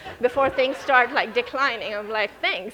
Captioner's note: audience laughing